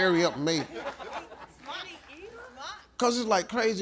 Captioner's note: audience laughing